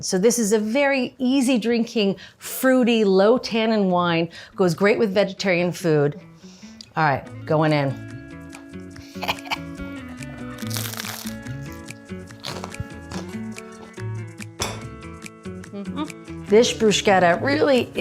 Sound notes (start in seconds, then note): 9.0 Julia snickers; 12.2 bruschetta crunches